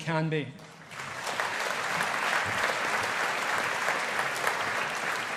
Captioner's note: audience applauding